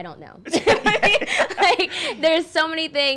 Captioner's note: laughing